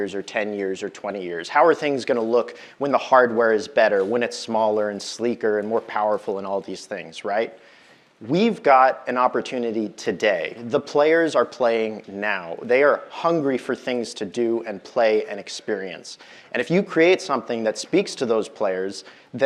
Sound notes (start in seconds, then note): none